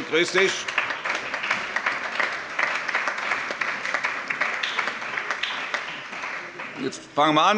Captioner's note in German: Allgemeiner Beifall